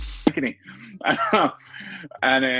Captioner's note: chuckles